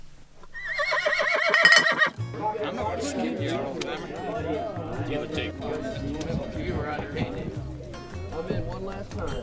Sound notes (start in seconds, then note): 0.5 horse neighs; 1.5 people chattering; 2.1 guitar music